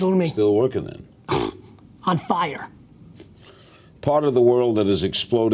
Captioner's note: blows raspberry